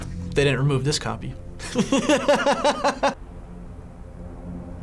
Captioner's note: laughs